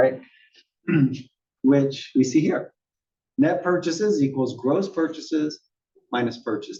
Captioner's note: cough